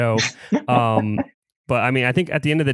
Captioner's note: laughs